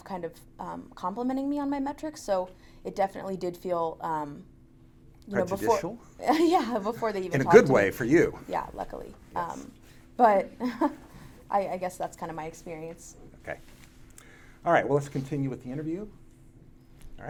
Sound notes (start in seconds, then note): 6.2 laughs; 10.5 laughs